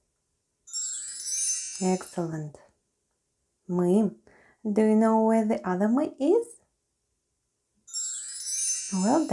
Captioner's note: chime sound